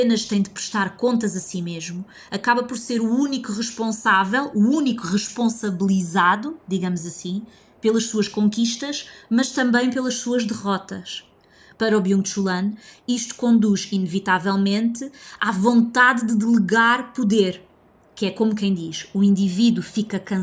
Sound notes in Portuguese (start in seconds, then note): none